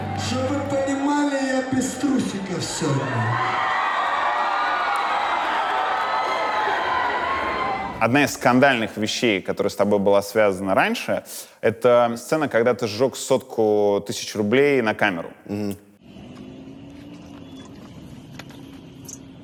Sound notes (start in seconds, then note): 3.8 crowd, mostly girls, cheers